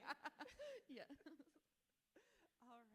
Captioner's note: both laughing; author laughs